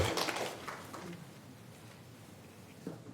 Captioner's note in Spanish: Aplausos